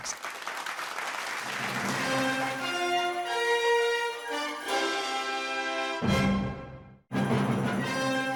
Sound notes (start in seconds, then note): 1.5 audience clapping; 5.2 bright upbeat music